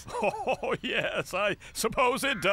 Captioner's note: laughing